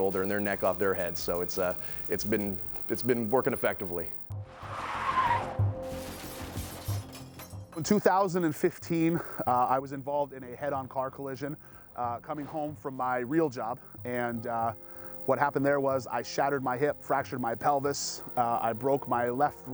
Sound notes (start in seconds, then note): 4.5 car crashing